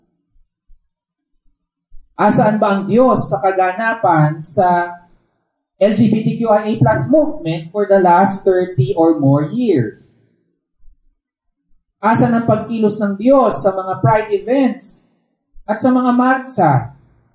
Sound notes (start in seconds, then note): none